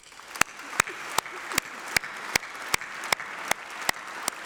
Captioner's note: applause